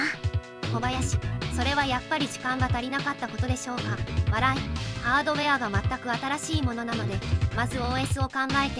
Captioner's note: laughs